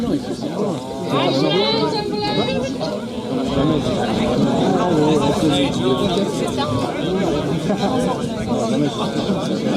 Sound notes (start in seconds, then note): 3.1 crowd murmur